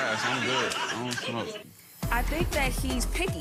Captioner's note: audience laughing